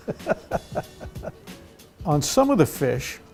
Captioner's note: laughter